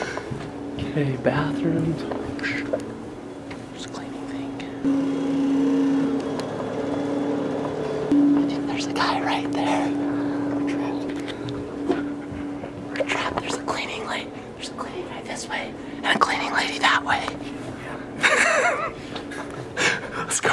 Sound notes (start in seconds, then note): 4.8 vacuum running; 18.2 laughs